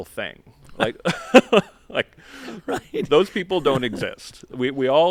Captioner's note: laughter